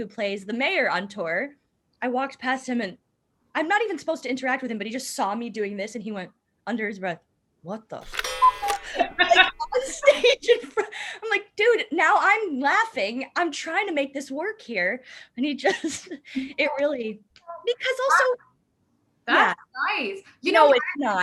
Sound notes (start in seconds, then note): 8.9 laughter